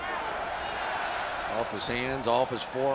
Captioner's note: crowd chants